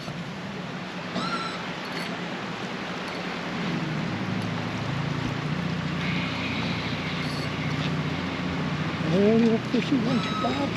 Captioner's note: reel spinning